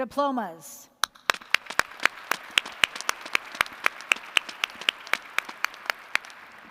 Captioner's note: applause